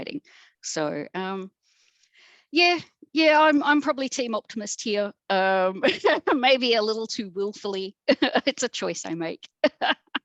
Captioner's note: laughs